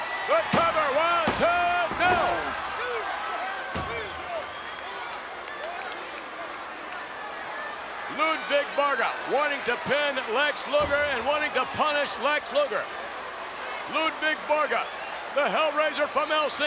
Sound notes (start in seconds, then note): 4.3 applause